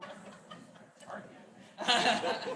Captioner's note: faintly speaking